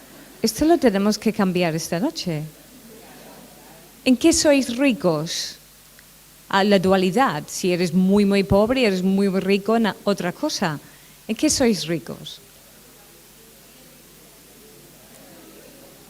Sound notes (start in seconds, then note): 2.7 murmuring